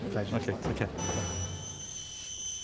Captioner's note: kettle whistling